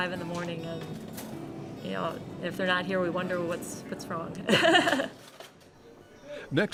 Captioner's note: laughs